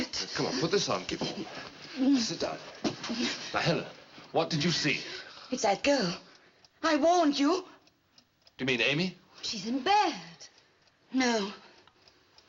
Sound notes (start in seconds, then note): 2.9 whimpering